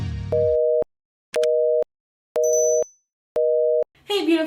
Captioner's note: busy tone